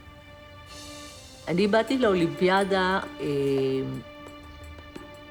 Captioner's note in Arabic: الصوت المنطوق باللغة العبرية